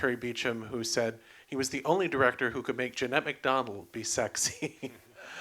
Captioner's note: laughs